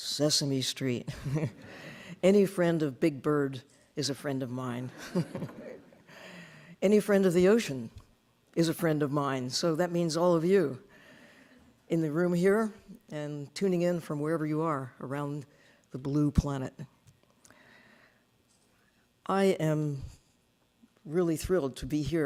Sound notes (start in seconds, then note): 1.2 laughing; 5.0 audience laughing